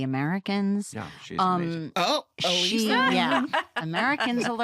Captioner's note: laughs